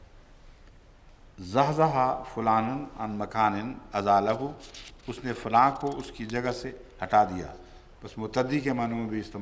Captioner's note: Arabic